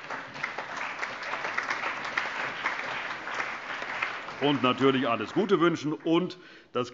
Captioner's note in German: Allgemeiner Beifall